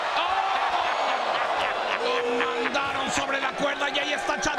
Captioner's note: laugh